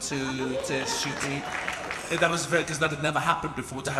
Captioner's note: audience applauds